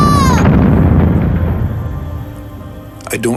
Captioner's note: rocket blasts off